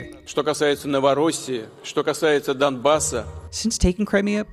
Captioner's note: Putin speaking Russian